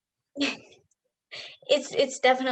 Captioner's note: laughs